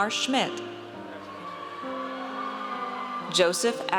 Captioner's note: audience cheers